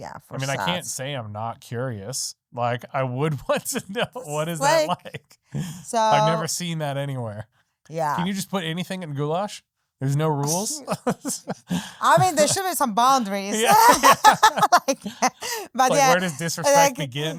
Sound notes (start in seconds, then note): 13.0 laughing